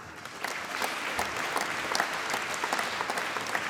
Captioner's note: applause